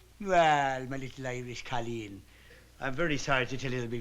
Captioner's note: irish accent